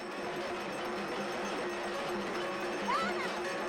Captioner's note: bells chiming